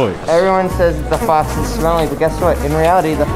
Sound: flies buzzing

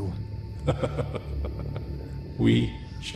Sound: Scarecrow laughs

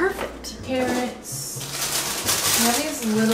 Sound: crinkles bag

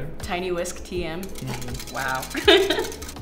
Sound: laughs

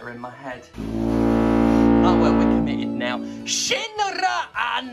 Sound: horn sound

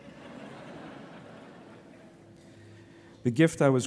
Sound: laughter

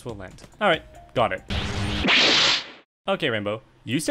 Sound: time travel noises

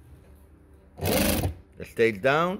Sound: machine whirs

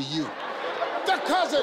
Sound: audience laughing

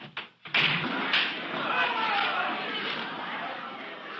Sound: student commotion

